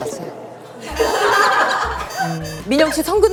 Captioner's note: scratching